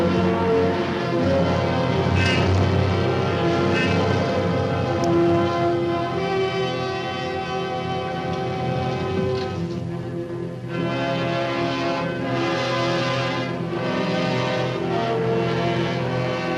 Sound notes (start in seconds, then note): 2.0 car honks; 4.6 dramatic music